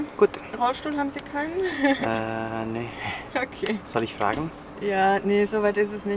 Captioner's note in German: verlegenes Lachen